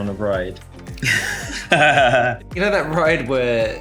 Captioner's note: laughing